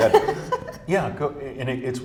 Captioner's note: laughs